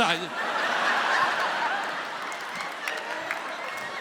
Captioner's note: audience laughs